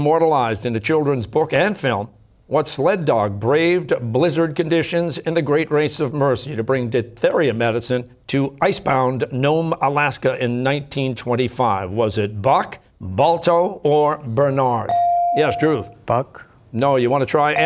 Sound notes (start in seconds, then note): none